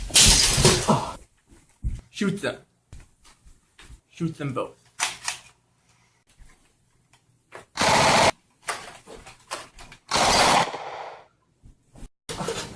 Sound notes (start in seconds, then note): 4.9 gun cocking; 7.7 gunshots; 10.2 gunshots